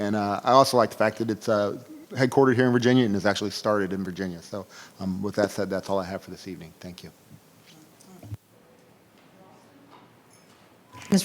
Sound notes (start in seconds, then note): 7.9 speaking faintly